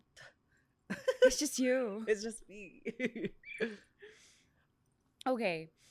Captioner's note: laughs; laughs